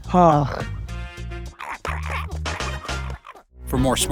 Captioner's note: dogs barking